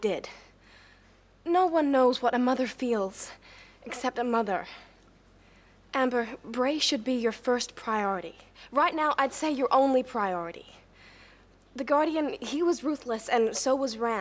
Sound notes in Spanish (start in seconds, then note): none